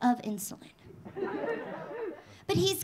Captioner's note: audience laughing